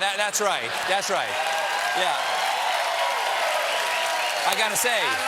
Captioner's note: cheers and applause